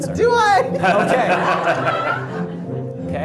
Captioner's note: everyone laughs